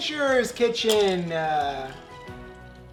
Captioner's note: clink